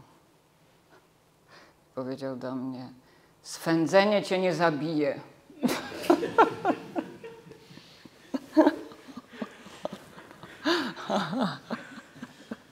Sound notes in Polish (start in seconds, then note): 5.6 śmiech